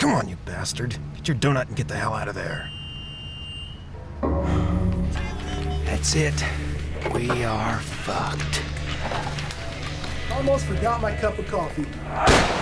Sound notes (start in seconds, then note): 2.6 door buzzer